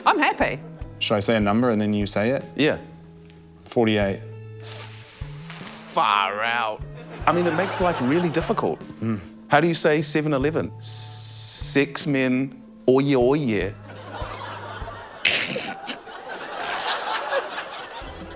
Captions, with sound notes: - I'm happy. - Should I say a number and then you say it? Yeah. - 48. - Ffff... far out. I mean, it makes life really difficult. - Mm. - How do you say seven 11? Sex men OYeee OYeee. (LAUGHTER) (SNORT-LAUGHS)